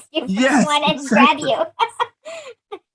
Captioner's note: laughs